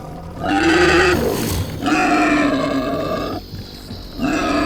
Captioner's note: roaring